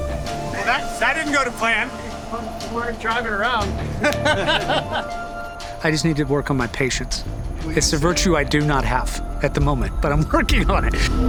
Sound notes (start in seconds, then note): 3.8 Dempsey laughing